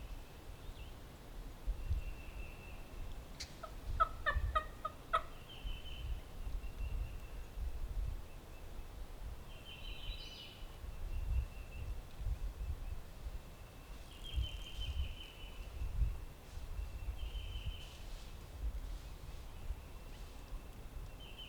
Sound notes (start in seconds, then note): 3.9 turkey calls; 10.0 birds chirping; 17.8 grass rustling